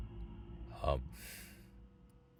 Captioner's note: sighs